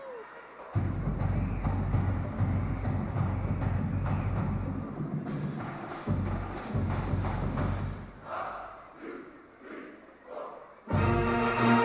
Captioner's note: cheering and applause